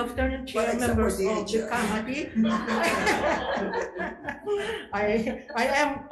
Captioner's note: attendees laughing